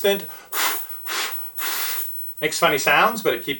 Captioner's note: blowing